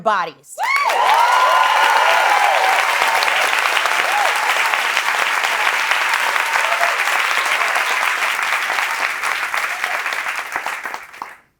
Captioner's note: applause